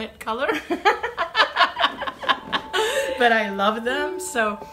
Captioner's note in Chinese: 笑聲